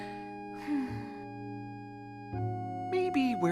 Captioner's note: sighing